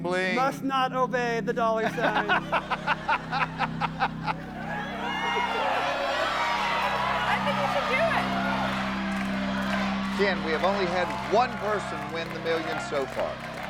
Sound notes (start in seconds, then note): 6.0 laughter